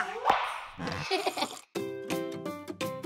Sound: child laughing; upbeat music

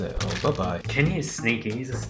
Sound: squelching

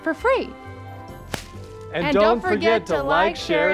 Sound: ribbon snaps

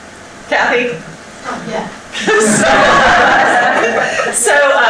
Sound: audience laughter

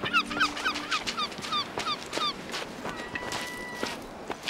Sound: bird cawing

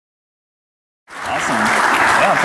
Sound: applause

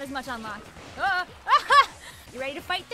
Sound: startled laugh

